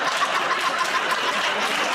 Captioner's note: laughter